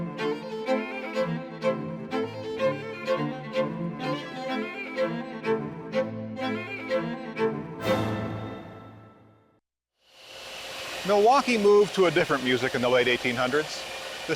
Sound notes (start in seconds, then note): 3.7 intrepid music continues; 10.2 machine whirring